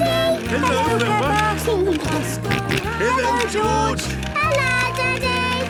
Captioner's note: George giggling and snorting